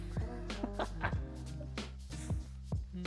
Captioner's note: laughs